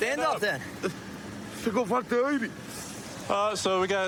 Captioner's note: speaking spanish